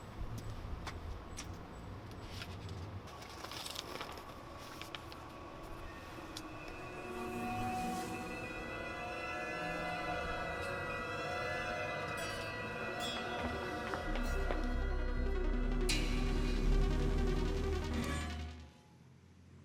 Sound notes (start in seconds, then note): 3.0 paper rustling; 8.4 dramatic music; 9.8 eerie music